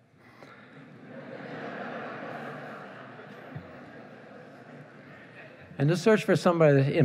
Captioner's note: laughing